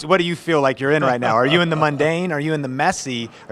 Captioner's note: laughs